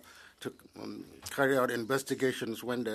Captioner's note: speaking French